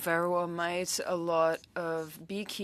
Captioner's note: speaking French